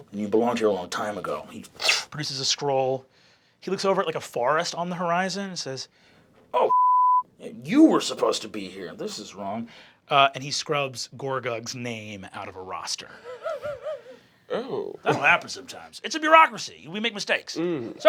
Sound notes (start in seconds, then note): 6.7 beeping; 13.1 laughing